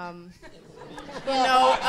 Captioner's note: audience laughing